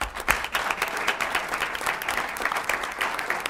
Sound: applause

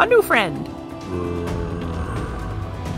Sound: zombie Noises

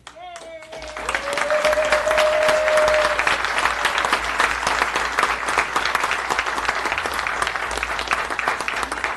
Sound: applause

